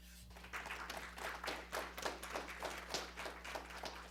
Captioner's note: audience applauding